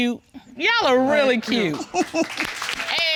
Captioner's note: all applaud; chuckles softly